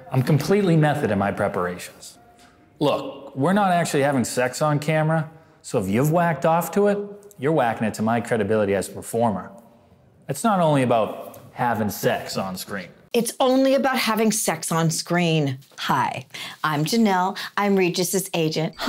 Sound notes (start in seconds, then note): none